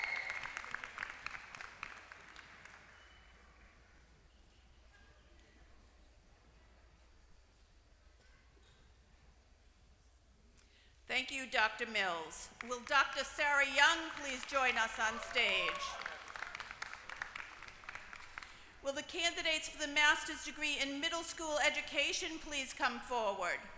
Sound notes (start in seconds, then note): 0.0 applause; 13.9 applause